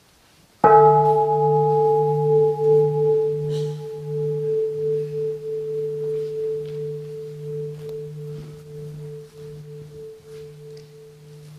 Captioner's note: the bell is invited to sound